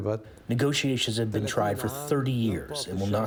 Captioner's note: through translator